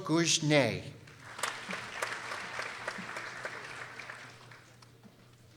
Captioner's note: people applauding